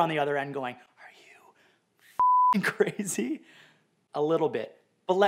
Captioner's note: beep